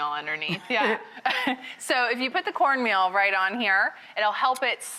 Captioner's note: laughs